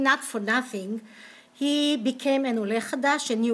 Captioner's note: speaking hebrew